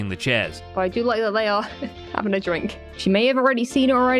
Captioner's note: laughs